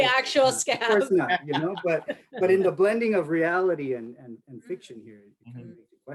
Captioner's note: laughs